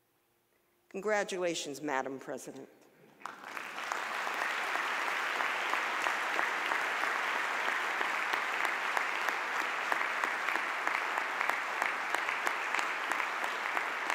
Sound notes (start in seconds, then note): 3.2 audience applause